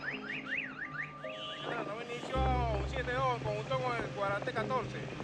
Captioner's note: speaking on radio